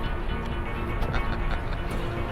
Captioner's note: laughing